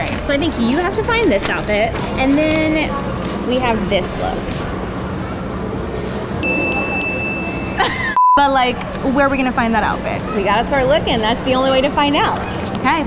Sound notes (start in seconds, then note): 6.4 bell dings; 7.7 laughs; 8.1 beeps